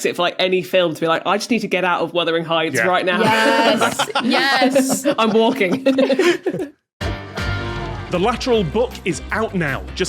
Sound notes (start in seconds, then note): 3.1 laughs heartily; 5.8 guests giggling